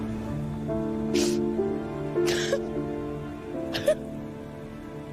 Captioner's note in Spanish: Sollozos